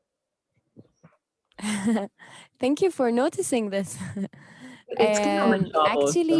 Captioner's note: chuckles